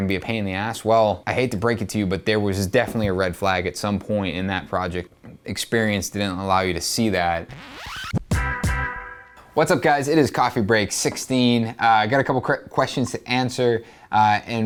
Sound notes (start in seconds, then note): 7.4 music album scratching; 7.5 hip hop music